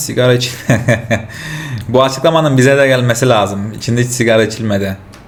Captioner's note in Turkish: kahkaha